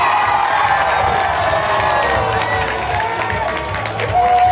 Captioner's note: crowd cheering